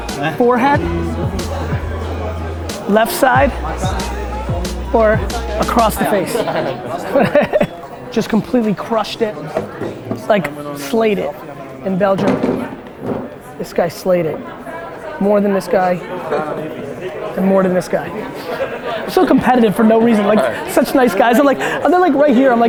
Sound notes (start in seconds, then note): 6.7 Gary laughs